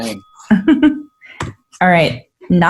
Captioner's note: laughs